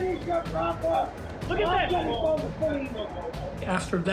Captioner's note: indistinct shouting